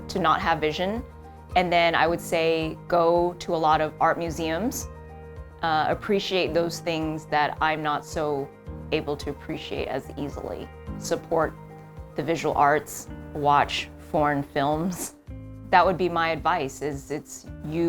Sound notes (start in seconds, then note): none